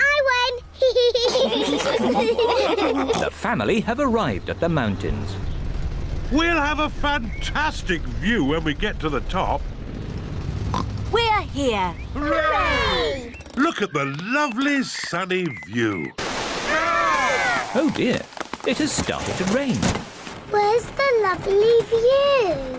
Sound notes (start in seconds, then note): 0.8 all laugh; 10.7 oinks